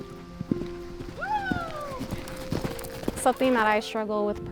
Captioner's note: horse galloping; cheers